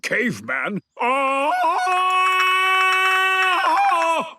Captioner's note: Tarzan call